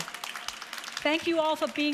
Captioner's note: audience applauds